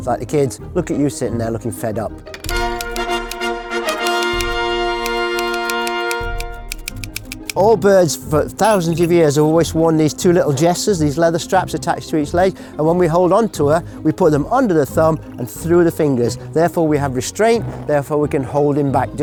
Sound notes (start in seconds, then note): 2.4 triumphant trumpet music; 4.4 typewriter clicks